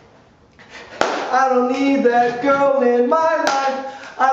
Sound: clap hands

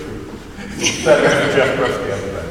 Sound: laughing

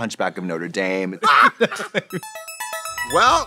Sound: Katya laughs; Trixie cackles; musical flourish

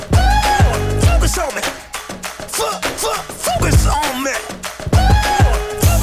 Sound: ooh; ooh

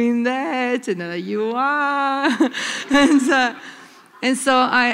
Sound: laughter

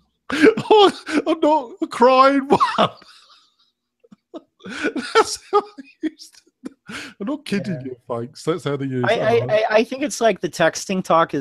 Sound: laughing

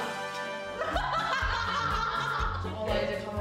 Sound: haha

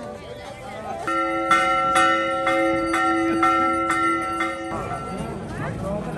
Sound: bell ringing

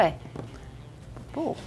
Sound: speaking in mandarin

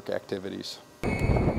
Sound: wind rushing sound as wind turbine door closes

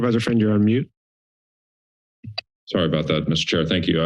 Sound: silence

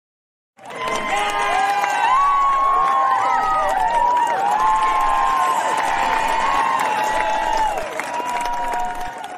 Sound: cheering

